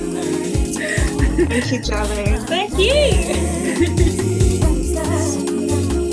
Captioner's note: laughs; laughs